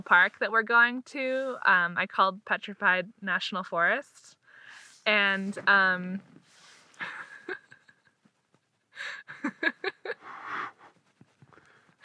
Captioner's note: laughs uncontrollably